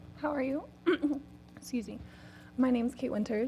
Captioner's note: cough